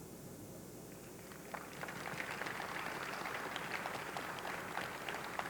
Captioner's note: audience clapping